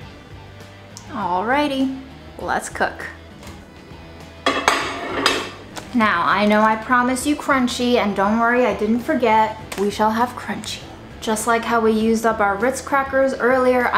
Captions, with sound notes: Alrighty, let's cook. (bowl clunking) Now. I know. I promised you crunchy, and don't worry, I didn't forget. We shall have crunchy. Just like how we use the bar Ritz Crackers earlier,